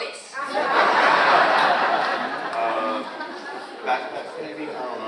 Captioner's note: audience laughs